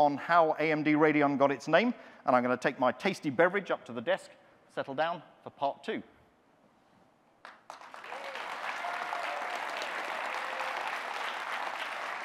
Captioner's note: audience clapping